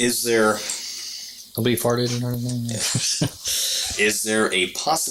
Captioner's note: laughing